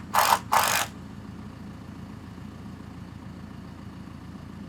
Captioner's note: drill whirring